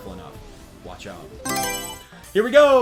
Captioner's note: Mario Selection Sound